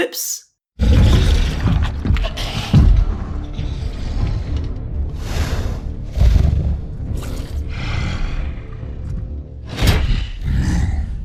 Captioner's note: monstrous growls